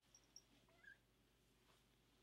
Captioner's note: tiny squeek